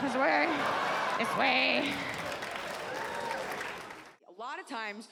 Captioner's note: audience laughs